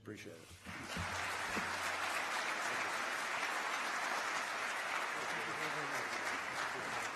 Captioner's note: applause